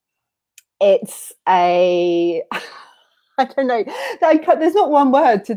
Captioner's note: laughs